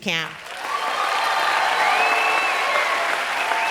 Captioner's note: applause